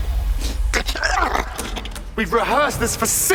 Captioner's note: spits, grumbles